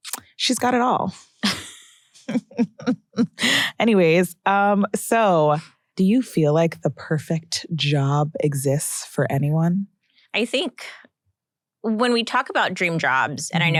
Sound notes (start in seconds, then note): 1.4 chuckles